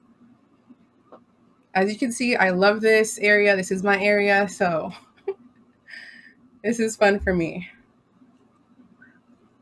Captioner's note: laughs